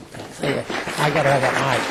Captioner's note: applause